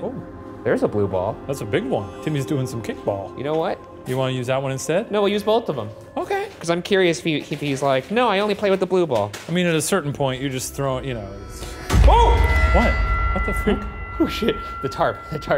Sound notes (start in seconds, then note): 12.0 tense dramatic music; 12.0 yelps